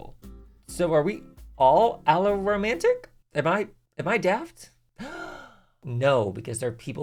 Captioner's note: gay gasp